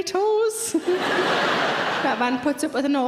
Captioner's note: audience laughs